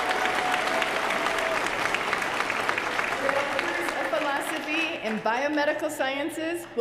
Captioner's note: applause